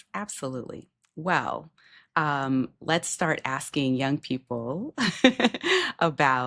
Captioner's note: chuckles